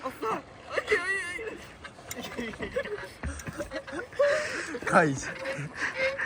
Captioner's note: laughs